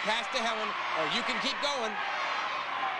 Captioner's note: audience cheering